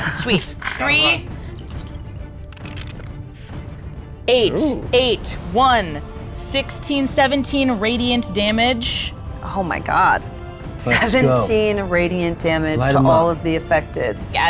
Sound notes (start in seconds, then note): 1.4 dice rattles